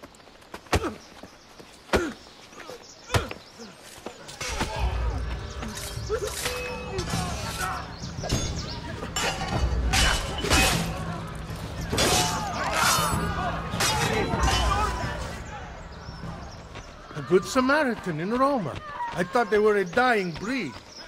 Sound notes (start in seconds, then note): 5.6 hidden blade stabbing sound; 8.4 fighting sounds